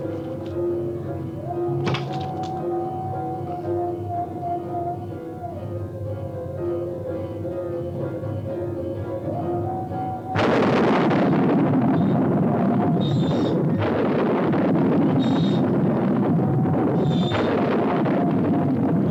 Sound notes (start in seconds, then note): 10.4 thunder rumbles; 13.0 cart wheels creaking